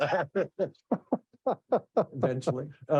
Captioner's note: both laughing